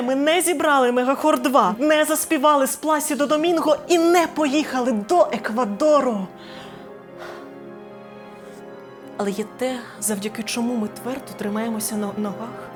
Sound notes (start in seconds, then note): 7.2 sigh